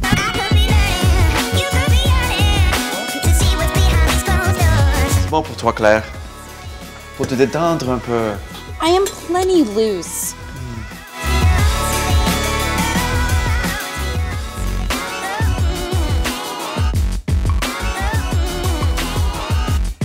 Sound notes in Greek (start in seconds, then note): 5.1 Στα Γαλλικά